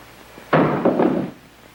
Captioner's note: thud